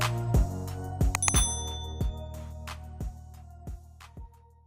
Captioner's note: bell ringing